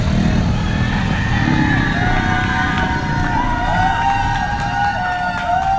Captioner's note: lovely crowd of people cheering